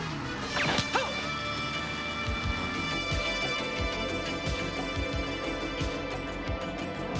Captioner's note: gun firing; man groaning